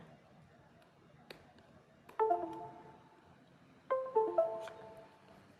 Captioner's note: device chimes